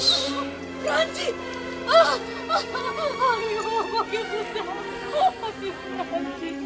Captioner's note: crying